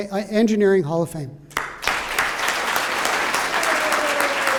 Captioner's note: applause